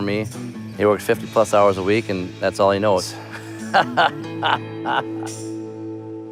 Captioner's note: laughs